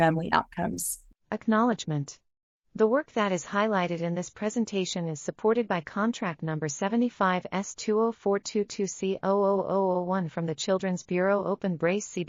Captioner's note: audio Description being read